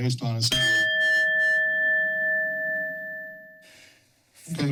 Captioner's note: bell rings